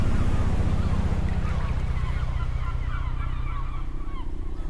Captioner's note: waves lapping